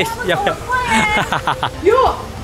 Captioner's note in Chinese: 哈哈哈